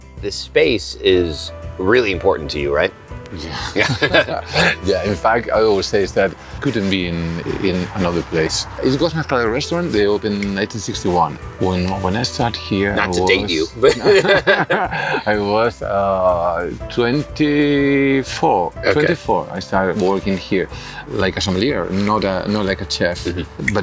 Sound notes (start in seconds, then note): 12.8 laughs